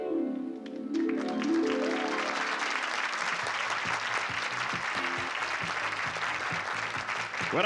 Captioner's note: applause and cheering